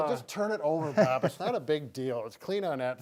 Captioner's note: laughs